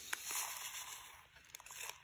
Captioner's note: packet crackling